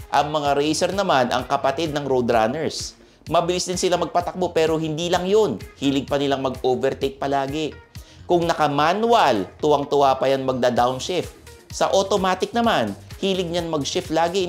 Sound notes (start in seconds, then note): none